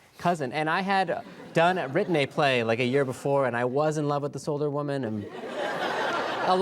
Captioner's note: laughter